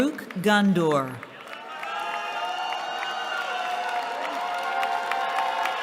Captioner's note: cheering